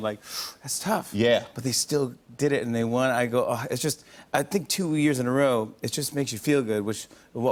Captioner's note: none